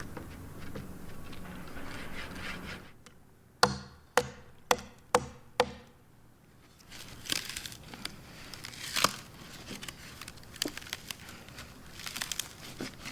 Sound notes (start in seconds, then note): 3.8 tool banging; 7.0 wood breaking